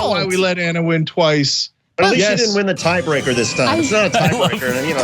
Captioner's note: laugh